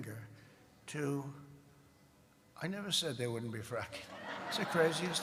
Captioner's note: laughter